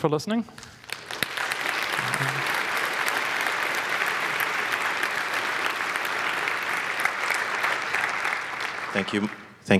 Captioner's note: applause